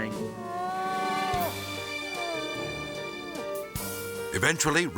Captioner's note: crying out